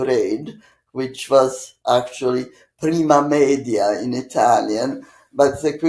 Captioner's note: italian